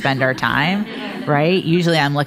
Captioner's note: audience laughing